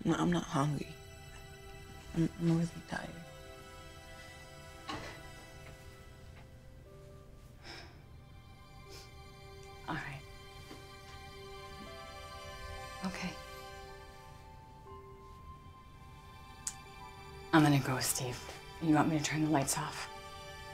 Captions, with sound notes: - I'm not hungry. I'm more than tired. (sighs) - All right. Okay. I'm gonna go, Steve. You want me to turn the lights off?